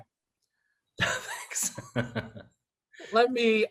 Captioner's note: laughs